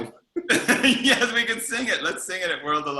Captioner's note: laughs